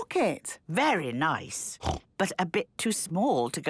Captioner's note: snorting